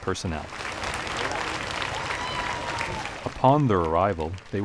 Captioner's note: crowds applauding